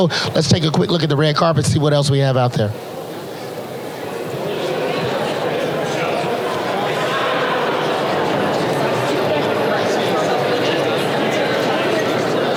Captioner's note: crowd conversing